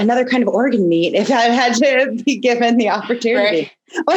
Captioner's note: laughs